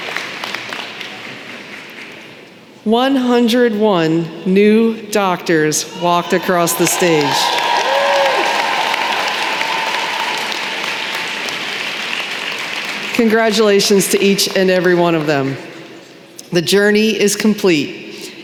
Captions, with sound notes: 101 new doctors walked across the stage. [applause] Congratulations to each and every one of them. The journey is complete…